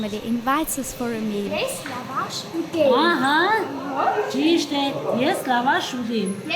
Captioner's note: in Armenian